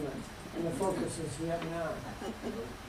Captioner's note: laughter